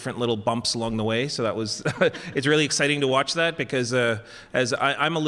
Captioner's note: laughs